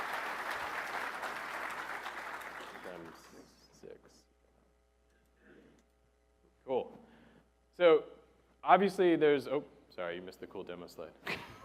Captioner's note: applause